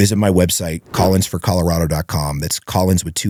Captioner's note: whoosh